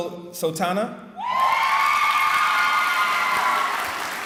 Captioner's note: cheering